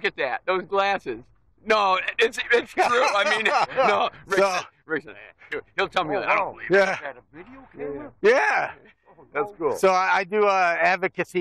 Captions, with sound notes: Look at that, those glasses. - No, it's true! (laughing) - Oh wow, is that a video camera? - Yeah! So I do advocacy for homelessness.